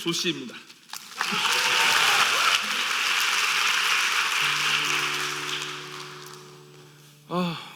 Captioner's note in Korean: 박수 및 환호